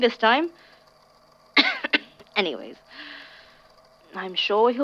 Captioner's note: coughs